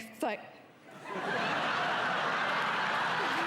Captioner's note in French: des rires